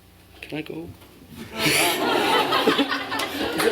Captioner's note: laughter; applause